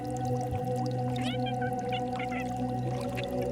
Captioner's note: animal mewing